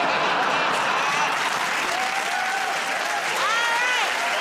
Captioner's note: cheers and applause